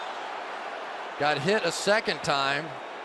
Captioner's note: cheering